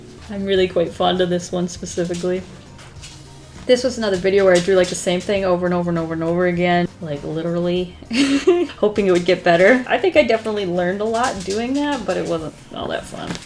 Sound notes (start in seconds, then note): 8.0 laughs